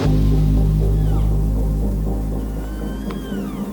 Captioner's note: cow calling